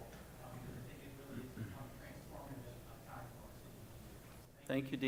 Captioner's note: speaks softly